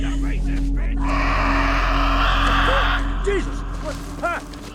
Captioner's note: Eddy shrieking